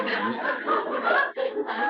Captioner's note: laughter